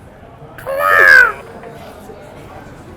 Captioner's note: gurgles